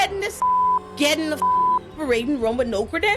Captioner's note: beep